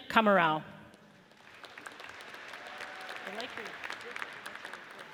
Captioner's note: audience cheers